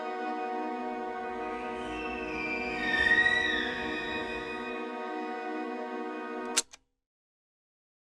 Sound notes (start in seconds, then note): 1.6 slow, high-pitched bird shriek; 6.6 camera shutter clicks